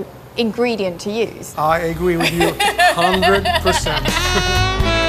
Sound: laughs; relaxed upbeat music

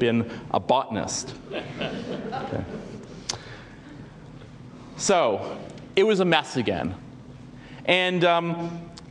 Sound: laugh

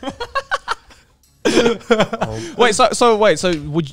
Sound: laughing

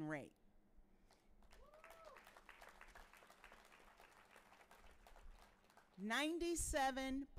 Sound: audience cheering and applauding

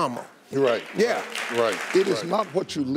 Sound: audience clapping

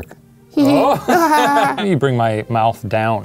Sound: laughing

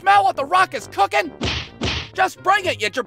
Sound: thwack-thwack

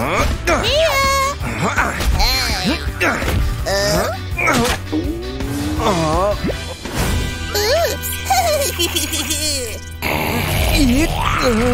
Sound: making threatening sounds

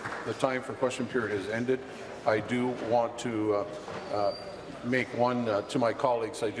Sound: applause

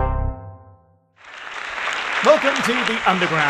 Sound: applause

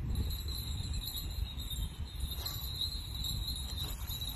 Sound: bells ringing

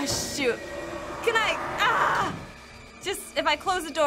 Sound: groans

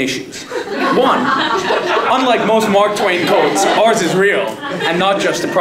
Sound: laugh

